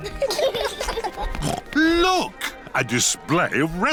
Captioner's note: laughter; snorts